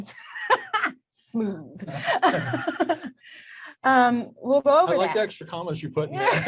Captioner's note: laughs; both laugh